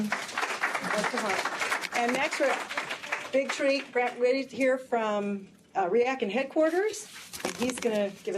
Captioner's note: applause